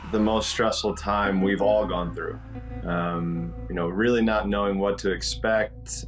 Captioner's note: siren